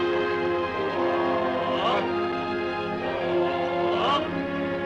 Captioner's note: men chanting